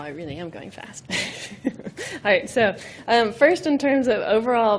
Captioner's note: laughing